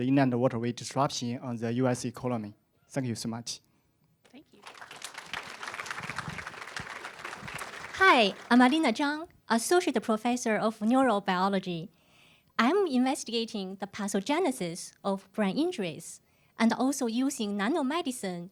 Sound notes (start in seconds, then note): 4.5 applause